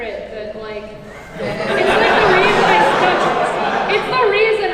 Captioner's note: audience laughs